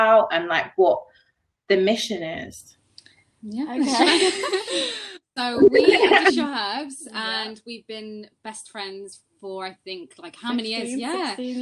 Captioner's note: laughter yeah okay